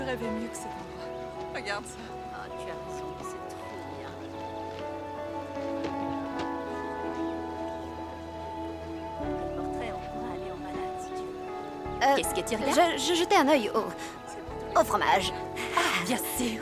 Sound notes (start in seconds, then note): 13.4 stammering; 15.5 chuckling